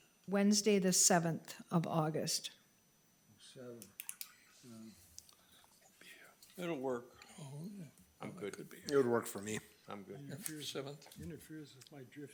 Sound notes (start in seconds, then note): 3.8 clicking